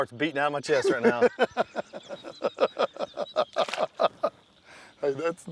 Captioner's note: laughs